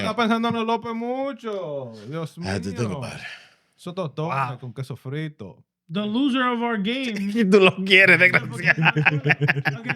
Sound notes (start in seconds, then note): 1.6 speaking In Foreign Language; 3.8 speaking In Foreign Language; 7.4 speaking In Foreign Language; 8.0 laughing